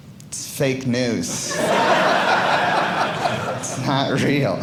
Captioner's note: audience laughing